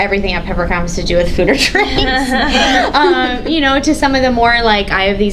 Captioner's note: laughs